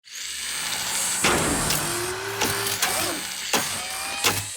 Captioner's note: machine whirring